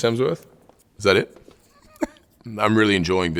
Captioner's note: giggles